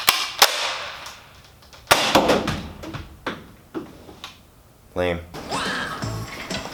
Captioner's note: gun firing at wall; upbeat music